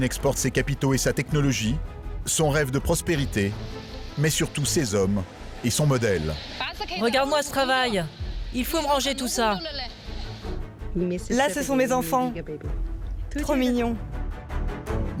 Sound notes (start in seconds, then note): 6.3 speaking foreign language; 14.1 soft adventurous music